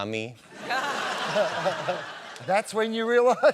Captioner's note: laughter